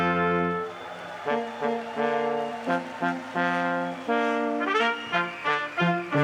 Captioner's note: crowd cheering and applauding